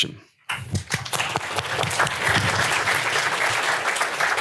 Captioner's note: applause